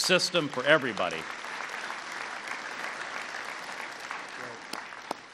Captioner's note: applause